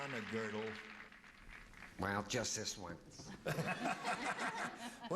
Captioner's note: as paul lynde